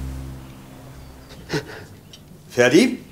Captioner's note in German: Schluchzen